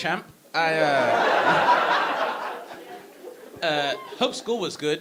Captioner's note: audience laughing